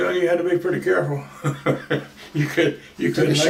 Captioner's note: laughs